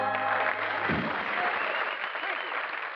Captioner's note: applause